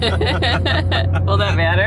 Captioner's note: laughing